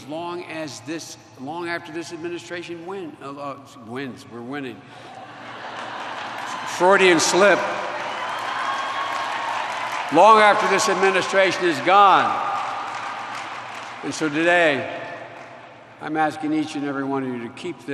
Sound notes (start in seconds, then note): 5.0 laughter; 8.4 applause